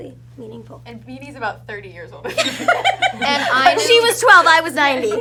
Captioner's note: cast laughs